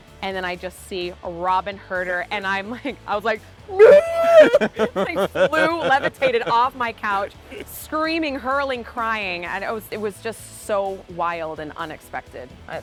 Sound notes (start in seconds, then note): 3.7 yells; 3.8 laughing